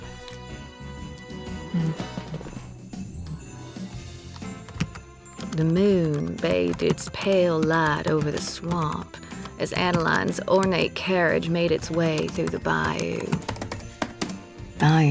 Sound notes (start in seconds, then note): 5.3 typing resumes